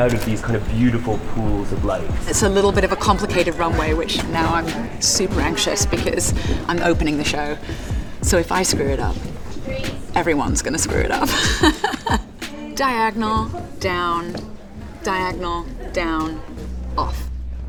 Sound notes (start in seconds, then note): 10.5 laughs